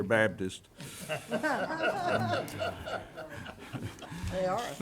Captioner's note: some laughing